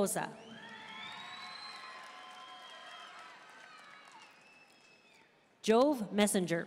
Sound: audience cheering and applauding

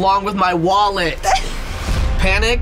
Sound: laughs

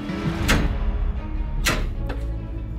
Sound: count-down timer thuds; dramatic music

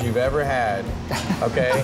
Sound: laughter

